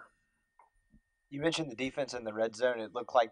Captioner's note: voiceover